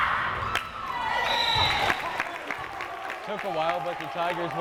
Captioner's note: whistle blares